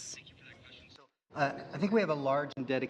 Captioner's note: speaking French